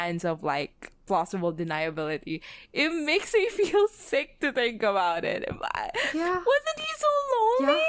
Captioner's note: laughs